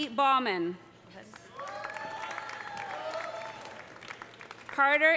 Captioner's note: audience applauding; audience cheering